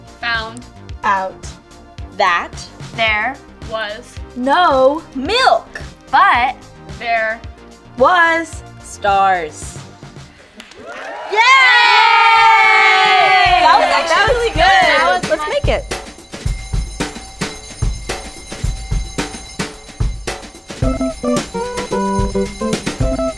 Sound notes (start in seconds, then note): 10.7 cheering; 16.9 ringing; 18.0 drum beats; 20.6 lively music